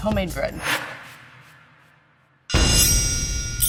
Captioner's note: video whooshing; metal swishing